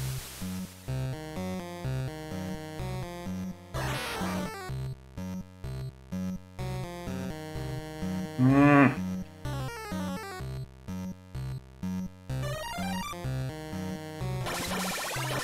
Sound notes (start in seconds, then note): 8.4 grumbles